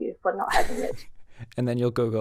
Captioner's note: laughing